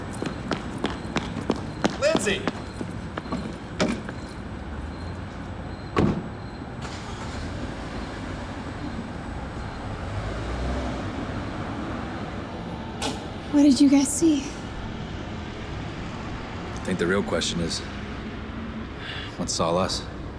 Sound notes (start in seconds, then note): 0.0 footsteps clicking; 4.1 car door slamming; 7.5 engine rumbling